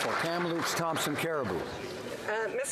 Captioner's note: applause